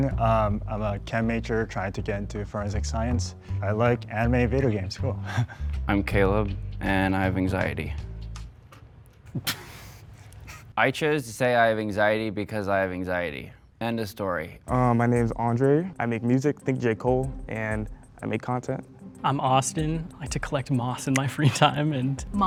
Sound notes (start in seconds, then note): 9.3 laughter